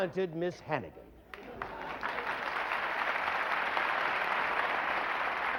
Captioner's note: applause